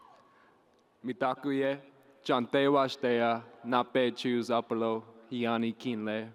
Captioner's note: speaking in foreign language